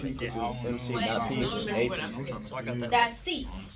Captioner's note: students murmur